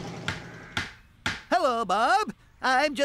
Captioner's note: hammer Pounding